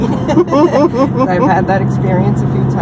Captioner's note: laughs